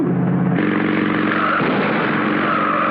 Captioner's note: tires screeching; gunshots